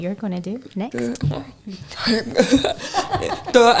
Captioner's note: laughing